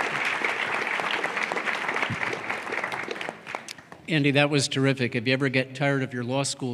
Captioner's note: applause